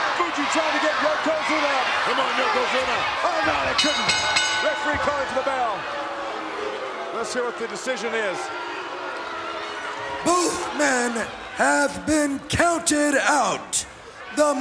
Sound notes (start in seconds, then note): 3.6 bell dinging; 9.5 crowd booing